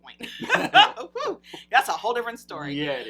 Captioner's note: laughs